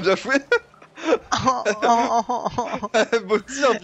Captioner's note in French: rires de l'un, gémissements plaintif de l'autre